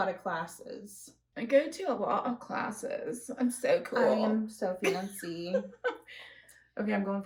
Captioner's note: mockingly